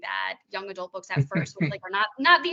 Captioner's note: chuckling